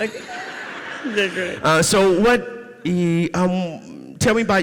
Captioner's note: audience laughs